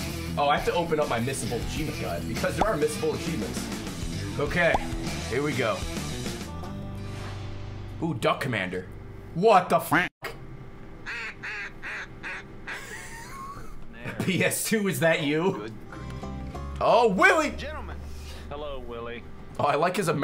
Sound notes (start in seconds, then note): 11.0 duck call; 12.6 laughs